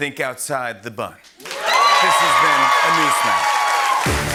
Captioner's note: cheering and applause